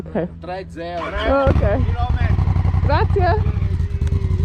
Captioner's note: bike starts up